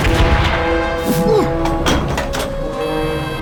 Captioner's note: more scared german noises